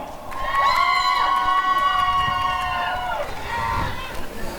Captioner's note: applause and cheering